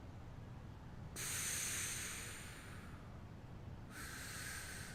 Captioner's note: inhales; exhales; inhales